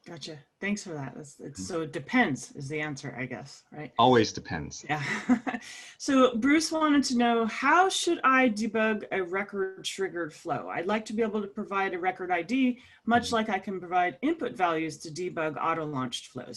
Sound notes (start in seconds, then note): 4.0 laugh